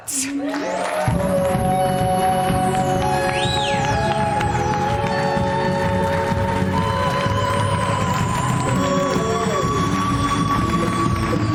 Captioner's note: cheers and applause while music plays